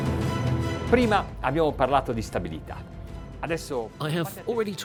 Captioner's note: suspense music; speaking in a foreign language